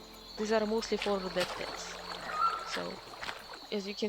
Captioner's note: distant HURR